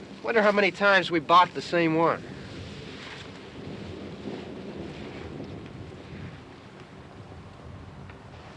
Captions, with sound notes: Wonder how many times we've bought the same one. [ THUNDER RUMBLING FAR AWAY ]